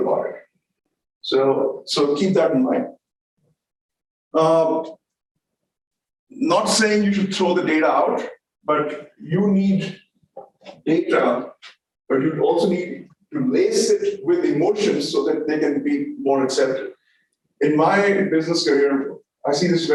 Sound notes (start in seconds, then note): none